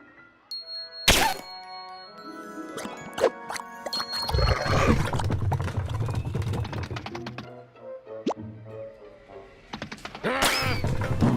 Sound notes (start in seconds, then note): 4.3 pigs growl